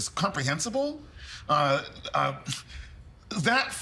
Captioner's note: stammering